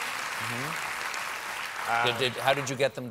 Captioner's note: applause